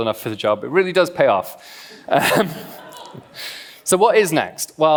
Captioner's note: laughs